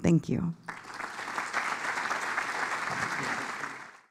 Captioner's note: applause